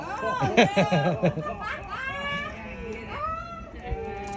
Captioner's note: laughs